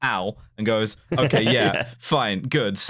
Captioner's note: laughs